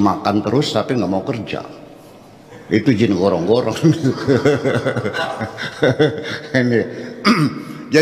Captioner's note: laughs